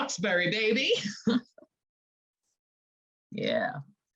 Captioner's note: chuckling